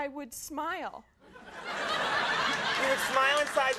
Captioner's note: crowd laughs